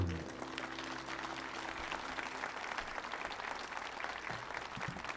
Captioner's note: audience applauding